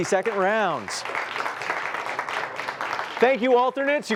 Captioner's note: applause